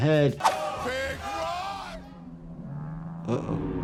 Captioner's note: audience exclaims